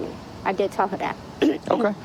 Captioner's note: clearing throat